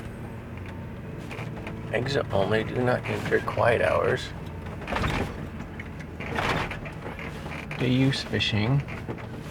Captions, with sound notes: Exit only. Do not enter. Quiet hours. (vehicle rattling) Day use fishing.